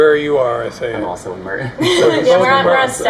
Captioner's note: laughing